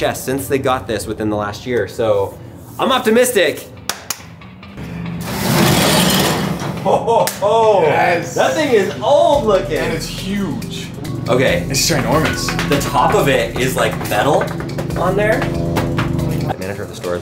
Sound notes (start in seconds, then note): 3.8 speaker claps; 5.4 ironsheet ruffles; 11.2 upbeat music; 15.9 upbeat music